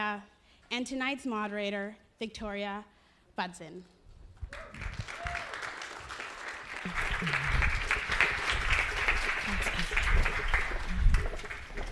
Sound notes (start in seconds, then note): 4.5 audience applause